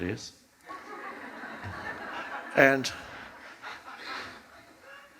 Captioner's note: audience laughs